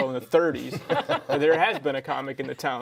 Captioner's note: laugh